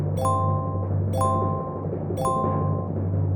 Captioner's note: upbeat drum roll music; dinging